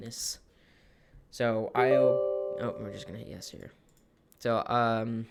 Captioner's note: beeps